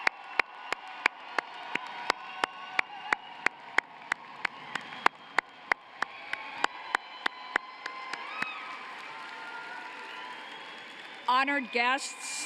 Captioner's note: cheering and applause